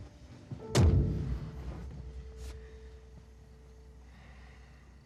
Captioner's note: car door slams shut